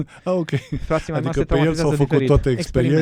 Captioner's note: laughter